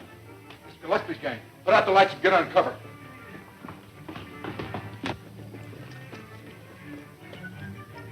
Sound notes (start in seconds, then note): 2.8 running footsteps